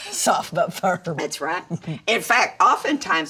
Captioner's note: Dory chuckles